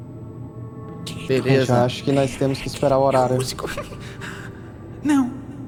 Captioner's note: giggle